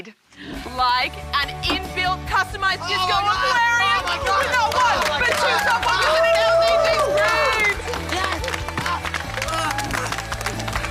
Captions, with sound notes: Like an in-built customised disco aquarium! Oh, my God! Not one but two self-illuminating LPG screens! Yes! (Applause)